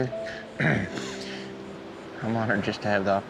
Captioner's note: clears throat